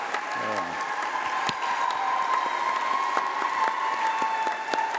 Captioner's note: applause